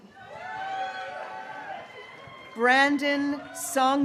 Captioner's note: graduates cheering